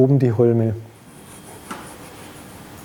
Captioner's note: gentle scraping